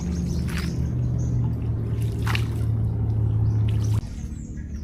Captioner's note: took in the quiet, listening to birdsong